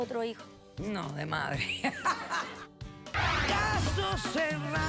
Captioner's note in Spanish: carcajadas